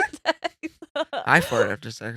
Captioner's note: laughing